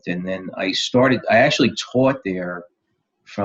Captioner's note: none